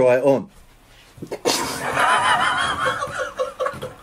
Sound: camera operator laughs; laughs

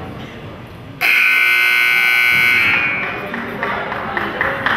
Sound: buzzer goes off

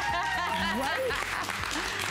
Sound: applause

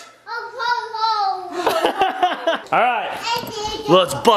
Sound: laughing

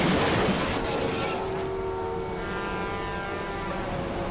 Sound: glass breaking; metal crashing; horns blaring

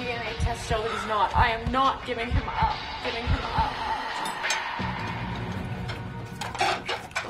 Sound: heart pounding

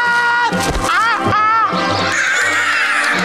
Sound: yelling; squawking; laughing

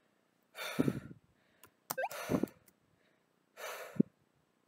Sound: heavy exhaling x3

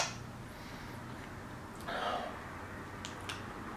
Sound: moan thing again

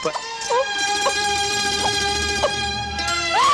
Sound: sobbing

